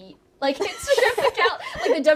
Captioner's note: all laughing